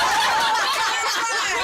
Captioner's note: laughter